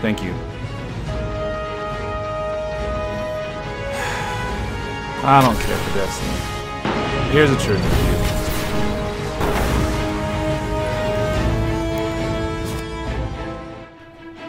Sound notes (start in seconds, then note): 1.1 audible sigh